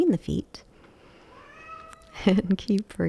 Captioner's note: Elmer meows; chuckles